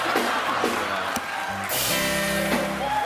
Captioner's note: laughter